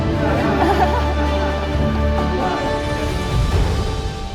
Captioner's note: people laughing